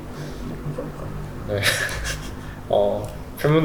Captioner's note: laughs